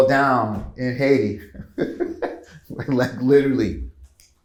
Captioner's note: chuckles